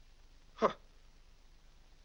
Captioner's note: scoffs